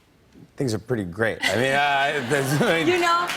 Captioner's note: laughter